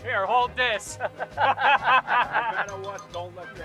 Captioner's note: laughter